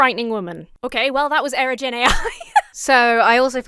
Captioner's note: laughs